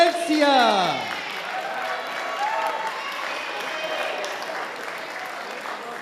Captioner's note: audience applauding and cheering